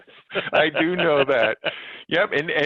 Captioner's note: laughs